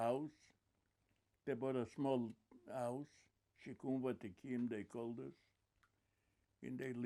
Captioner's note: hebrew